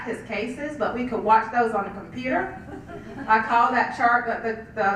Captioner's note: laugh